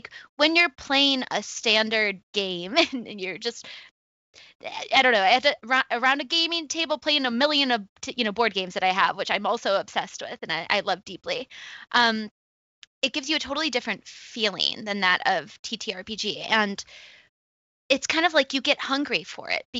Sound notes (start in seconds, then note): none